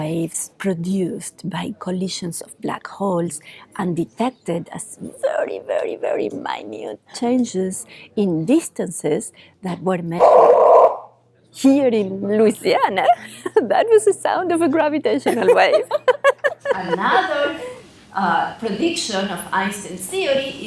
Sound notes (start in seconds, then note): 10.3 wave humming loudly; 15.2 laughs